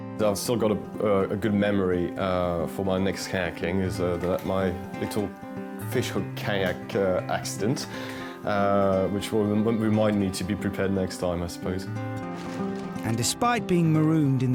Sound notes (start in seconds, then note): 11.9 uplifting instrumental music; 12.2 water splashing